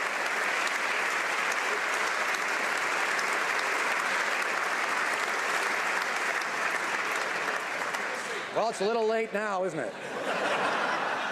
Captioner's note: some Applause